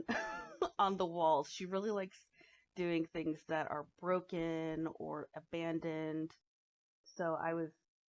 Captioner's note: chuckles